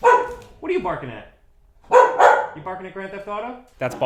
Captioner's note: dog barking